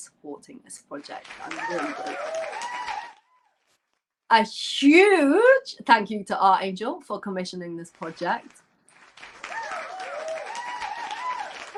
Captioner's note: applause